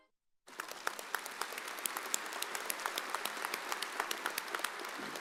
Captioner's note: audience applauds